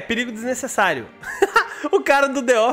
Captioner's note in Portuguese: Risos